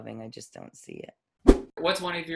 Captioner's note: whoosh